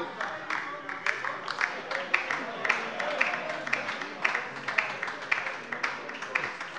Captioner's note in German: Beifall bei der LINKEN - Lebhafte Zurufe von der CDU